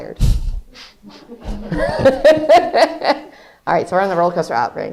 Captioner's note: laughs